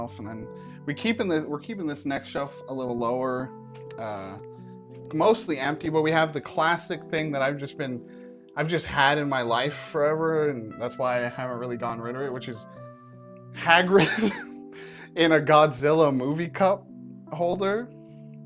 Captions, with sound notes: And then, we're keeping this next shelf a little lower, uh, mostly empty, but we have the classic thing that I've just been, I've just had in my life forever and that's why I haven't really gotten rid of it. Which is Hagrid *laughs* in a Godzilla movie cup holder.